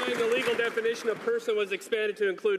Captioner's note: some Applause